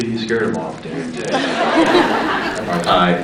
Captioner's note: scattered laughs